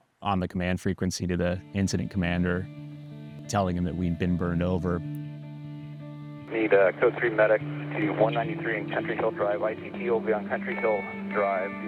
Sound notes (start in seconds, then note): 6.4 radio